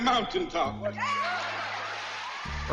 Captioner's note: crowd cheers